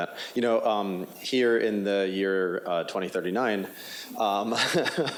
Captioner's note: laughs